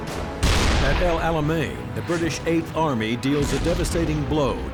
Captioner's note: cannon fires